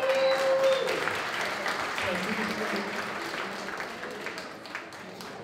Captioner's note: applause